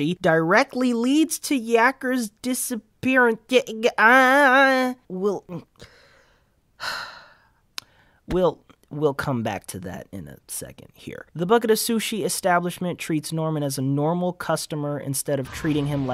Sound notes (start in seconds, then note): 5.7 inhale; 6.8 siiiigh